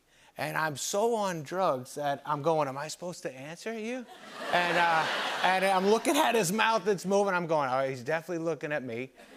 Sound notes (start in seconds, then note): 4.1 laughter